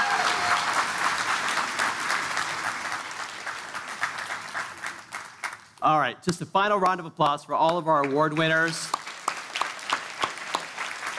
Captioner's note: applause